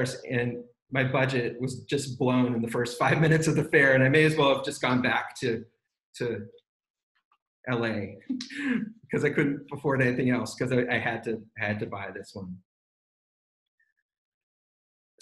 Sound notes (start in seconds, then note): 6.9 laughs